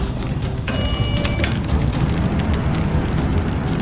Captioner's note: flames whooshing; machine whirs